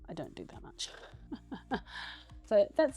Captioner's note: laughs